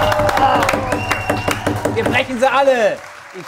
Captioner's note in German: Pfiffe